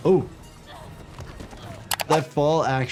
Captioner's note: both grunting